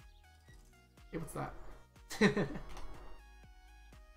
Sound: laughs

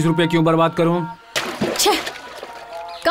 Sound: water splashing

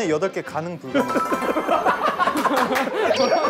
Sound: bursting out into laughter

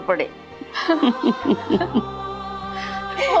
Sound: laughing

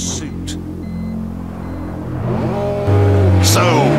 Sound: BMW warning sound

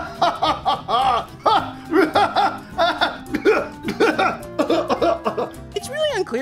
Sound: chokes

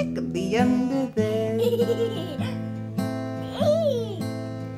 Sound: giggles

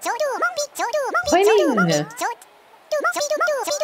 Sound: high pitched voice

